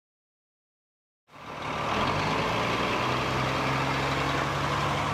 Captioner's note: firetruck rumbling